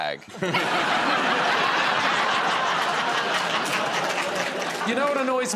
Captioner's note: laughter